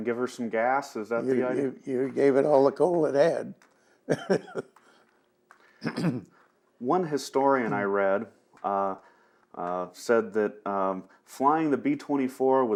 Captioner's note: laughs